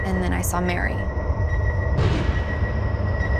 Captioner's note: beeping; ominous music